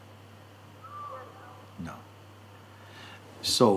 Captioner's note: voices in audience